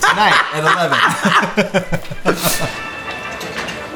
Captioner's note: laughs